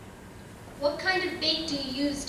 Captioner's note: voiceover